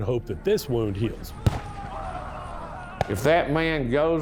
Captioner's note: soldiers bellowing; gun popping